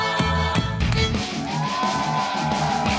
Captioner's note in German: Jubel, Rockmusik